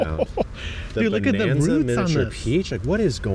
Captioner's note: laughs